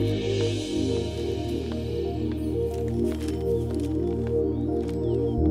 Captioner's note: Paper ruffling; Footsteps